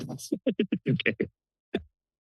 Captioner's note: laughing